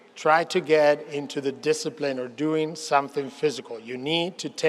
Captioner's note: none